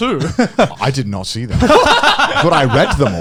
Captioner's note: laughing